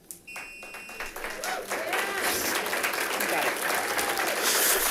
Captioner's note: audience applauding